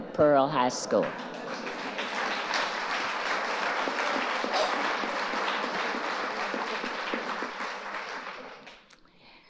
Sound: audience applauding

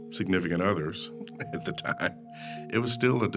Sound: chuckling

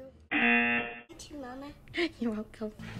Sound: buzzer rings

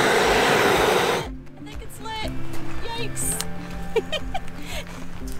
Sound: laugh

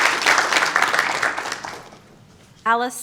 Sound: applause

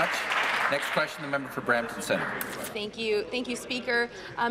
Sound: applause

